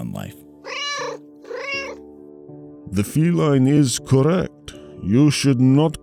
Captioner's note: meow